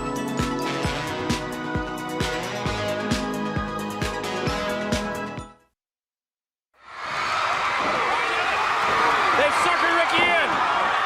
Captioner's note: crowd cheering